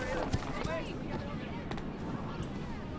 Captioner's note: murmuring; running footsteps